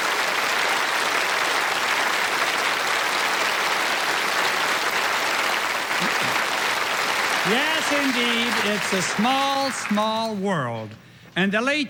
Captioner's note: applause